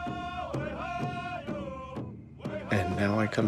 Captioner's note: drums beating; voices chant